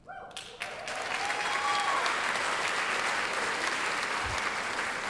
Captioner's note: applause, cheering